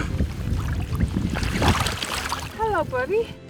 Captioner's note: water splashes